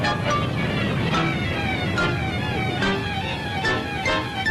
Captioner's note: rain drops thudding